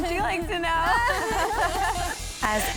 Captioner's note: everyone laughing